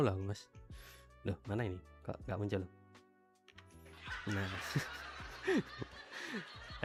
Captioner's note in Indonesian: tertawa